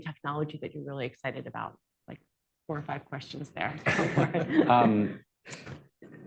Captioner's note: laughter